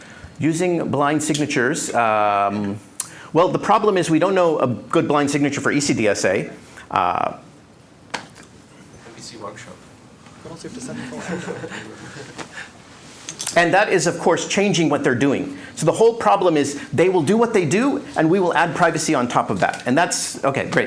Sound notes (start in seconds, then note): 10.8 laughter